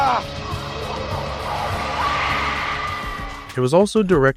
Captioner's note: zombie shouting